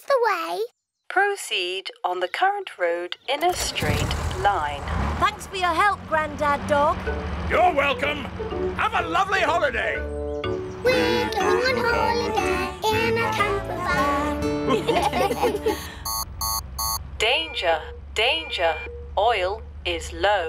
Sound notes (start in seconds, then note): 14.6 laughter; 16.0 beeping